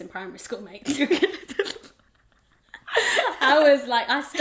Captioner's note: both laugh